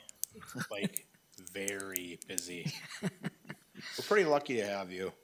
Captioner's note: laughing